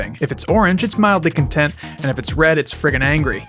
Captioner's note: none